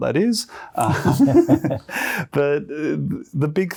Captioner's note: both laughing